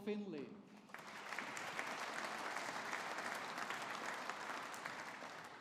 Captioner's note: audience applauding